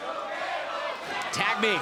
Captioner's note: crowd cheering